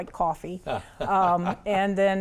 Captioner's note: laughs